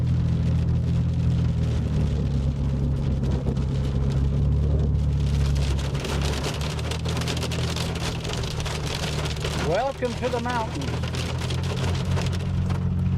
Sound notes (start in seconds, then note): 0.2 engine rumbling; 5.5 rain pattering